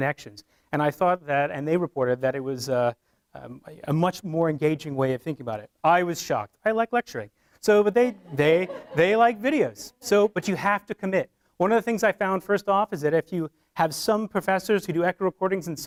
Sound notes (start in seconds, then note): 8.1 laughter from audience